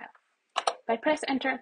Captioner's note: keyboard button pressed